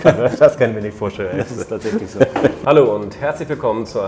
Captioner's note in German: lacht